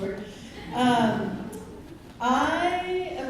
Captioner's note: laughter